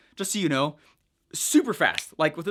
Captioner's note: snaps